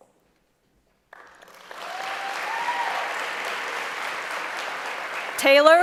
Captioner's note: applause